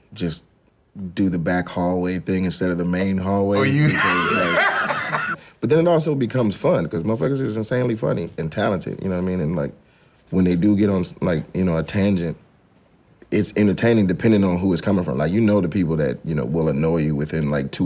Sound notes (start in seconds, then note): 3.5 laughs